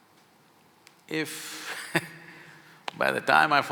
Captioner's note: laughs